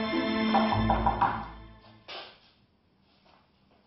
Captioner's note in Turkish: Kapı çalar